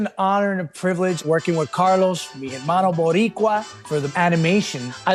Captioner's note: speaking in Spanish